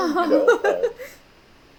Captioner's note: laughing